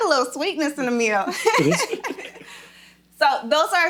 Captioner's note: laughing